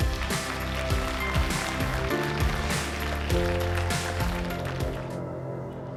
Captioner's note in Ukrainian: оплески